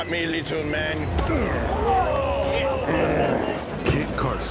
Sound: grunt; crowd responds in surprise

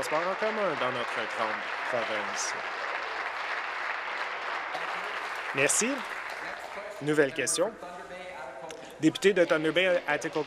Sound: applause

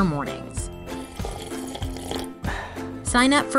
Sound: sipping

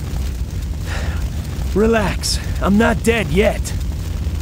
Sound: sigh

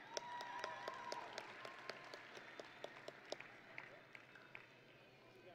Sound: audience and graduates cheering

